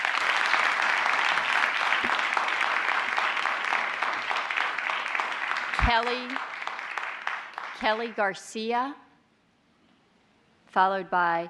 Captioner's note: applause